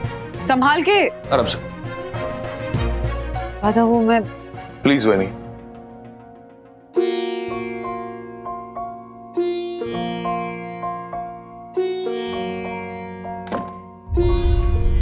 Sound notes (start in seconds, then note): 13.4 door closes